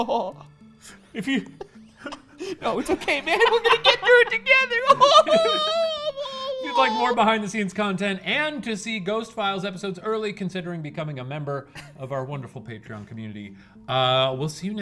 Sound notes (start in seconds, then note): 4.9 cries